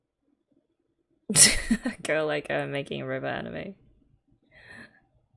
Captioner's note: laughs